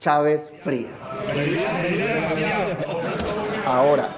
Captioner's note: laughs